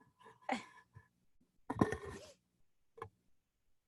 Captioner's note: laughing